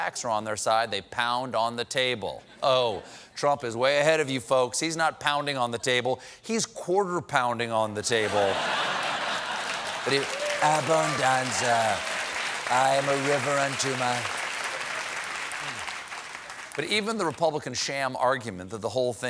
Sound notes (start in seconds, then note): 11.0 applause; 11.0 laughter